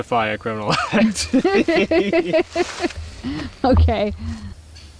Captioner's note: both laughing